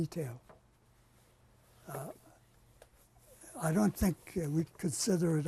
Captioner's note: pauses for 3 seconds